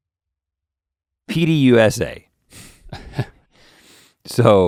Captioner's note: Link chuckles